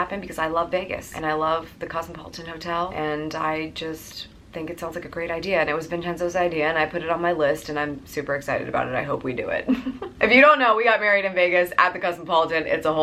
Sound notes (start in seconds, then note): 9.9 laughs